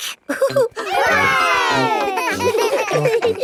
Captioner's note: chuckles; laughing